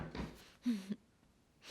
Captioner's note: Esperanza resopla